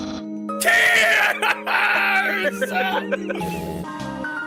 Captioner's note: laughs